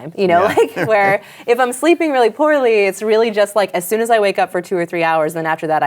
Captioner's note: chuckles